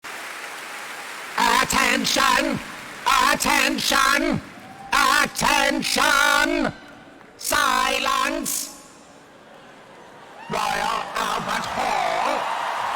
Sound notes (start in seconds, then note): 0.0 applause; 9.0 more applause from Crowd